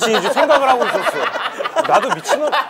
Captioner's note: laughing